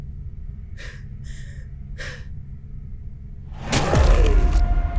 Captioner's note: Casey breathing heavily; ominous music